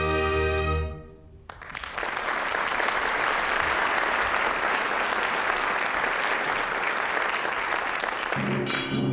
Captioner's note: applause